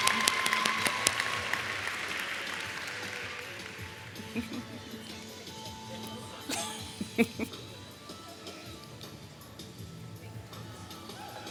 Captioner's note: applause